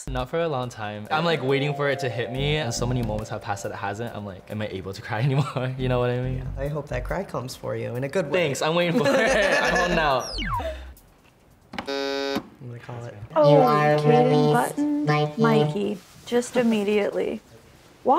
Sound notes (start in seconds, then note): 8.9 both laughing; 11.8 button buzzing